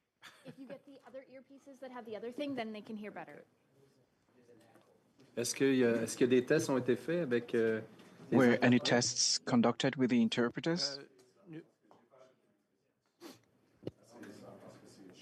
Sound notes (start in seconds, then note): 10.4 speaking French